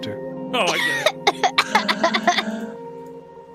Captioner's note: laughs